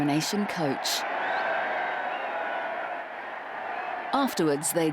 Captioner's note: crowd cheering